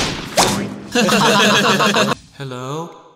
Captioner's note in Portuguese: Riso